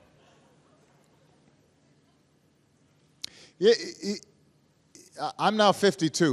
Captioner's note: laughter